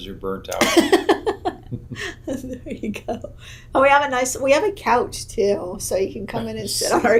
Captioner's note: laughs